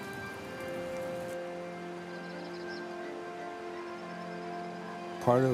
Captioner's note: soft orchestral music; bird whistling